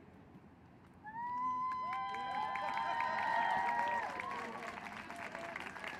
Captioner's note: cheering